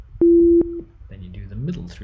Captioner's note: medium tone beeps